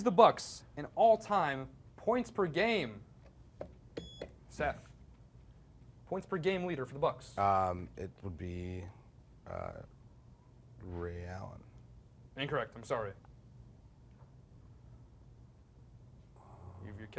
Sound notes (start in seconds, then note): 4.0 beep